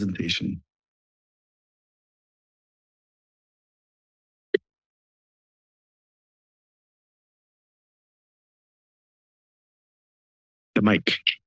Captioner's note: silence